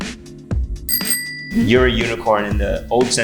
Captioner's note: bicycle bell dinging